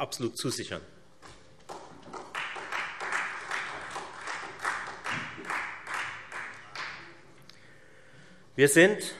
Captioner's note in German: Beifall Freie Demokraten